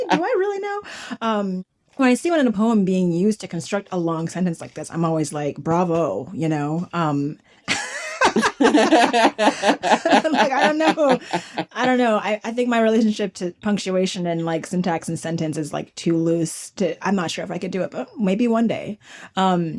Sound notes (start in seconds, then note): 7.6 laughter